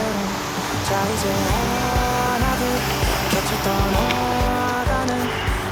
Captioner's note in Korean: 갑자기 거세지는 빗소리